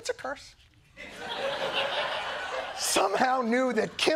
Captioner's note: laughter